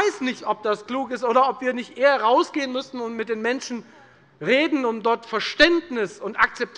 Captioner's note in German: none